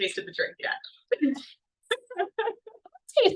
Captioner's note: laughs